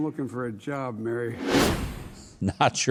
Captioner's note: wind whooshing